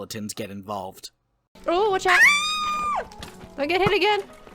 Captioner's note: screams